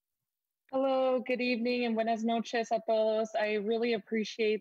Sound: speaking in foreign language

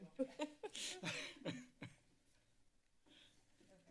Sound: laughter

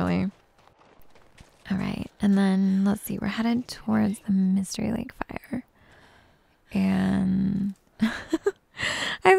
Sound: giggles

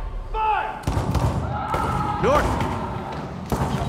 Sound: gunshots, screaming

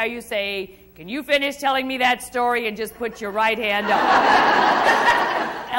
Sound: crowd Laughs

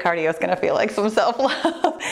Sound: laughs

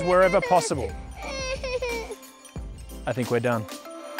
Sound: girl crying

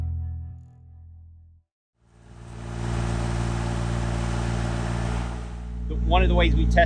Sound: machinery sounds

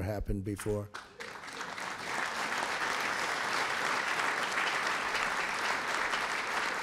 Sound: applause

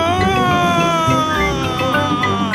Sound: screaming

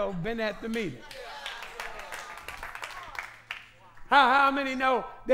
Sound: applause

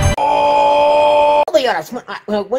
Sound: Big Smoke's OOOOOOOOOOOOOOOOOHHHHHHHHHH

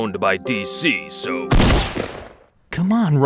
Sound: gun fires

